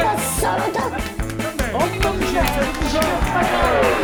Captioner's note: arguing and fighting; bomb exploding